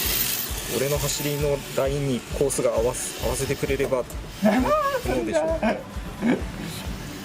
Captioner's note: laughs